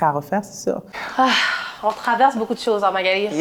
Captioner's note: sigh